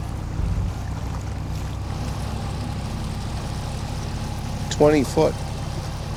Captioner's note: water sloshing